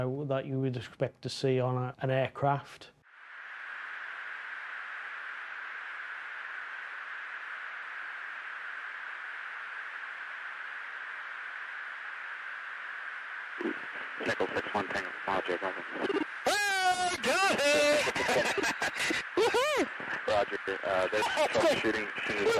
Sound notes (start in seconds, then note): 3.2 radio hissing; 18.7 laughs